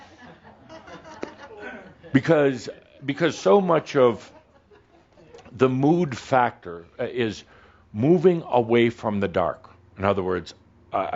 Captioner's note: a few chuckles